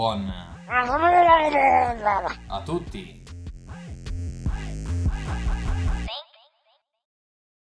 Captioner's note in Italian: murloc sound